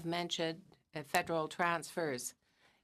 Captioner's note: speaking in french